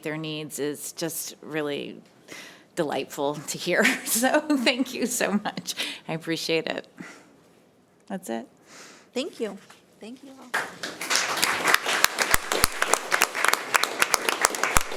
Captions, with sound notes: their needs is just really delightful to hear. So thank you so much. I appreciate it. That's it. - Thank you. Thank you, all. (audience applauding)